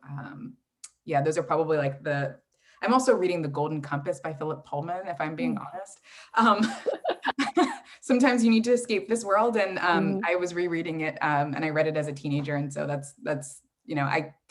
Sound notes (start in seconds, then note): 6.6 laughs